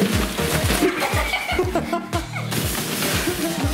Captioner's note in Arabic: يضحك